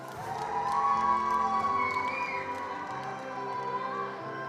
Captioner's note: attendees applauding